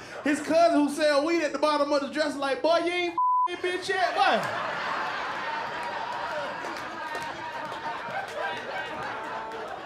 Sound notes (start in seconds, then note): 4.0 laughter